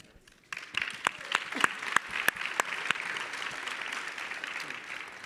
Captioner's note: audience clapping